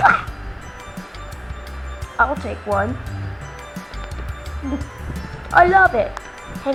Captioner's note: spits; awkward shuffling